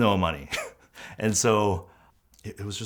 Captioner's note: chuckles